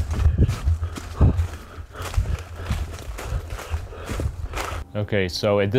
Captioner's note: Dave breathing heavily